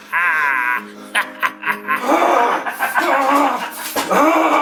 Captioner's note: laughing; Larry growling